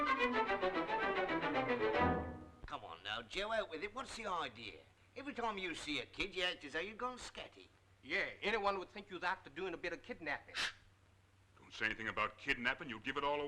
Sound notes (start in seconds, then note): none